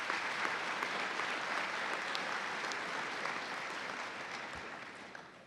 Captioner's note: applause